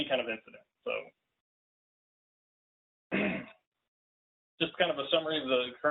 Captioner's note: clears throat